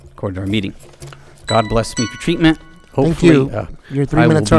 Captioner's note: timer beeping